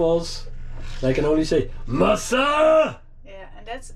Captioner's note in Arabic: يتحدث بلغة أجنبية